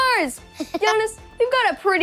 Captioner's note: guffaws